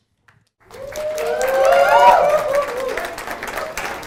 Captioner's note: audience applauding